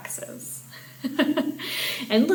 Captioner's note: chuckling